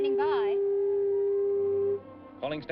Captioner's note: tool buzzing